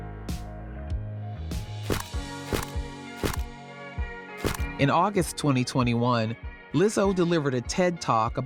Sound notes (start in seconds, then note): 1.7 camera snapping